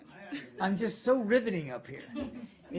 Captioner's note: laughter